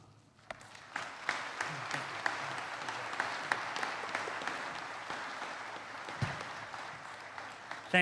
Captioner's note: applause